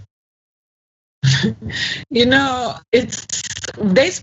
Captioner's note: laugh